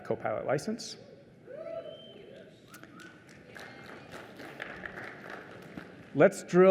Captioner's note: applause